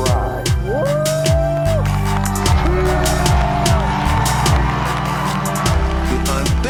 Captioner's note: congregation cheers; congregation applauds